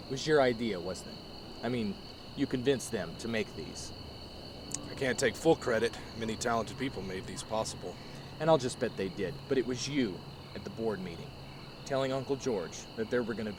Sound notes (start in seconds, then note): none